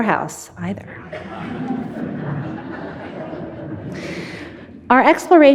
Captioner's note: audience laughing